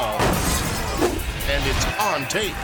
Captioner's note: glass shatters